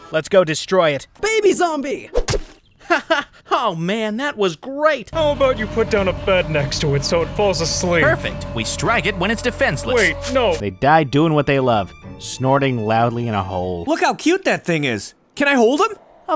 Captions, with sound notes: - Let's go destroy it. - Baby zombie! - (laughs) Oh man. That was great! - How about you put down a bed next to it, so it falls asleep? - Perfect. We strike it when it's defenseless. - Wait, no. - They died doing what they love. Snorting loudly in a hole. - Look how cute that thing is. Can I hold him?